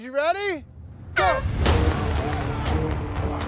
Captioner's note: dramatic music; horn blows